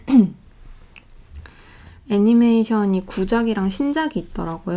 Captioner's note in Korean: 목을 가다듬음